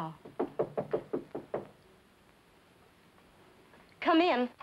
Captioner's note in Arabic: طرق الباب